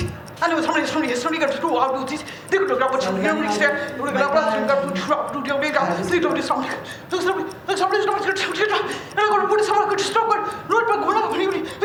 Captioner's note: non-english speech